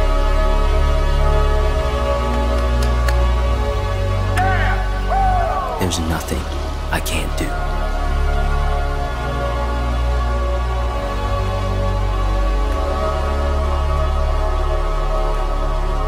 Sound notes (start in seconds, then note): 2.6 coach claps and yells